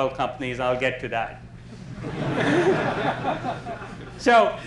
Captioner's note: laughter